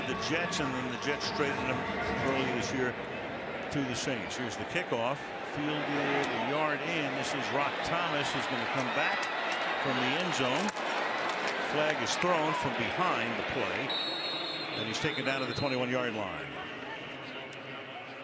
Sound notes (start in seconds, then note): 13.8 whistle